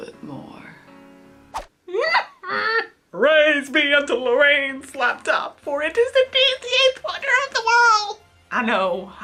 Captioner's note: whimpers